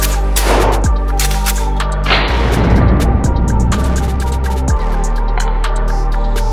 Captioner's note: gun clicking; gun firing; gun clicking